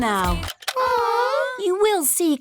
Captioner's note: music stops; all groan